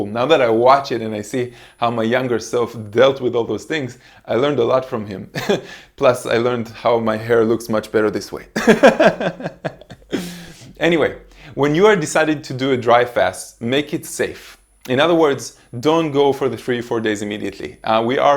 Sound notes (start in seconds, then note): 5.6 laughs; 8.6 laughing